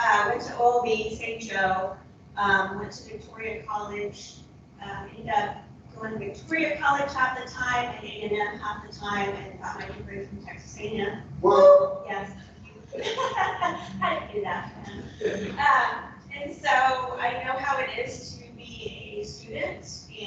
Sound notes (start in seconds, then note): 12.8 laughing